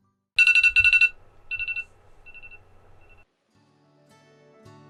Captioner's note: phone alarm